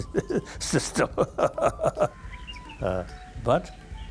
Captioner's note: Dalai Lama laughing